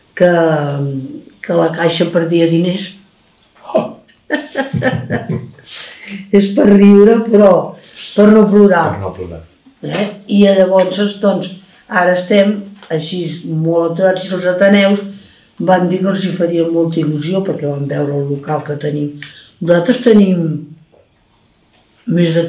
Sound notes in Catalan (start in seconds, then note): 8.3 Riu